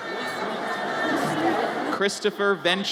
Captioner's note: audience chatters